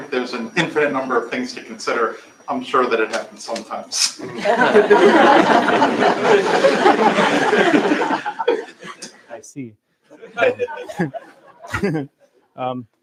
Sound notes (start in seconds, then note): 4.2 laughter